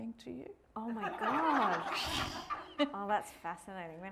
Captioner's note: audience laughing